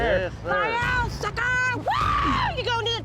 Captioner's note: cheering